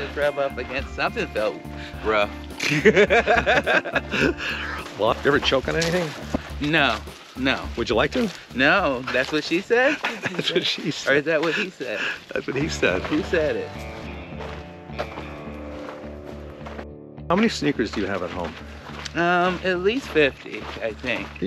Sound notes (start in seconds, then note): 2.6 Ron laughing; 14.3 upbeat music; 15.0 footsteps approaching